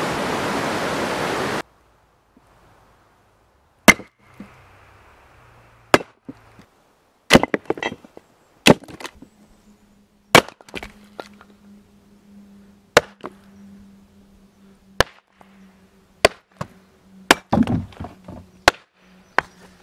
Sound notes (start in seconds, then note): 3.8 chop; 4.6 chopping